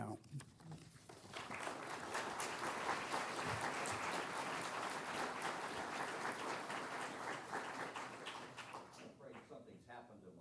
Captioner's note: applause